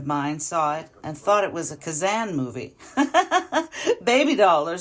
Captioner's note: laughs